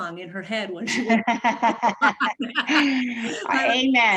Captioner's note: laughs